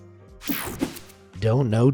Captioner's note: screen whooshing